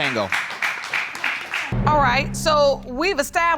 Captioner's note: audience applauds